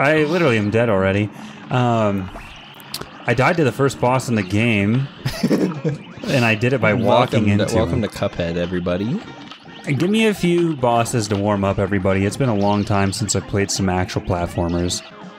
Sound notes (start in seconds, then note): 2.7 smacks lips; 5.1 laughs